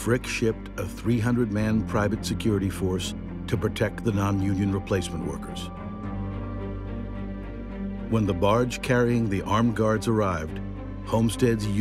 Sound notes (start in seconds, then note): none